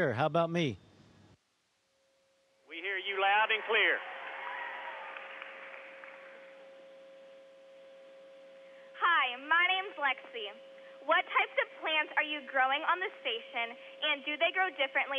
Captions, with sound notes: >> BRIARHILL MIDDLE SCHOOL, THIS IS STATION. WELCOME ABOARD. I HEAR YOU LOUD AND CLEAR. HOW ABOUT ME? >> WE HEAR YOU LOUD AND CLEAR. [CHEERING AND APPLAUDING] >> HI, MY NAME IS LEXI.